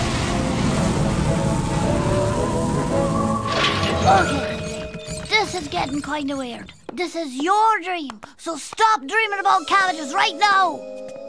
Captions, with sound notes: (wheels creak) - This is getting kinda weird. This is your dream, so stop dreaming about cabbages right now!